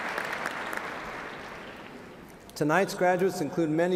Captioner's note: applause